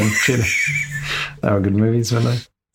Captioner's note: laughs